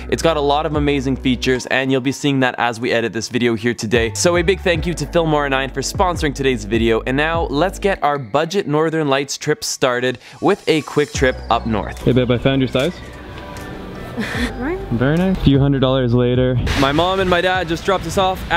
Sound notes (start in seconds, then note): 14.1 chuckles